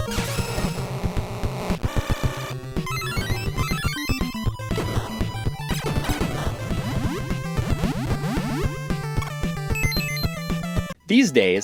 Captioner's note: game audio